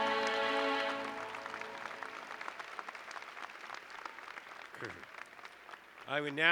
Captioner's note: applause